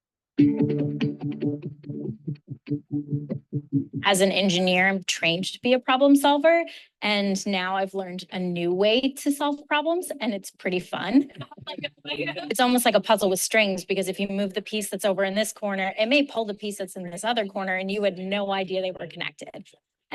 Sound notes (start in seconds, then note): 0.4 upbeat music; 11.3 students laughing